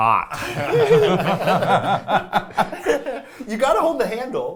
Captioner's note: people laughing